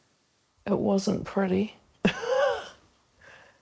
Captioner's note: chuckles